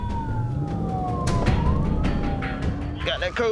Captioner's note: engine revving